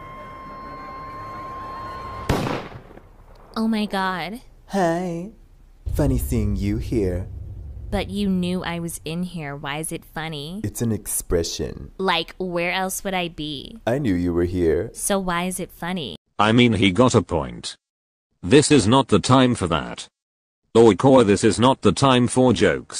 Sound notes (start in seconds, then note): 2.1 dramatic music; 2.2 gunshot